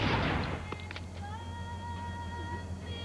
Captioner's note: gunshot